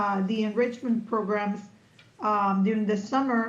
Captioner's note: none